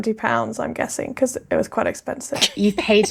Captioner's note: laughing